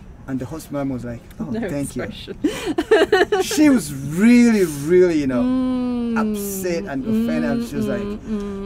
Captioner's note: laughing